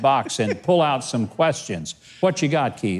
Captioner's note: laughs